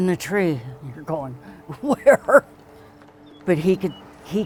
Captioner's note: laughs